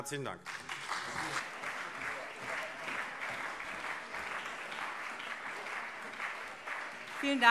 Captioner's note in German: Beifall CDU und SPD